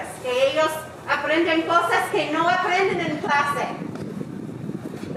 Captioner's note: speaking in foreign language